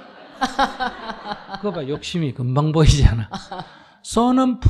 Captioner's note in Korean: 청중 / 질문자 웃음; 질문자 웃음